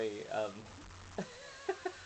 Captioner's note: laughs